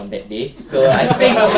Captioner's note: audience laughs